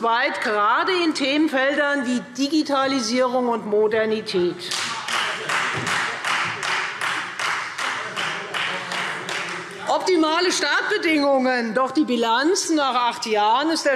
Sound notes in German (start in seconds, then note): 4.7 Beifall Freie Demokraten